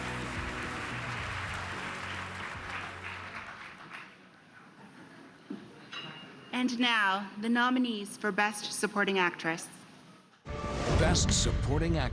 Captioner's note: cheers and applause